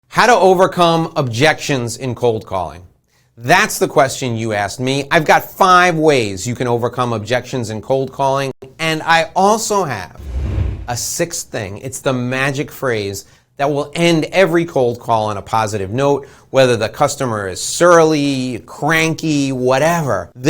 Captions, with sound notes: - How to overcome objections in cold calling. That's the question you asked me. I've got five ways you can overcome objections in cold calling and I also have (air whooshing) a sixth thing, it's the magic phrase that will end every cold call on a positive note whether the customer is surly, cranky, whatever.